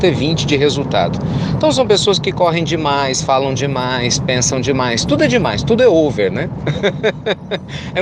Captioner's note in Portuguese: Risos